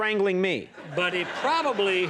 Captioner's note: audience laughs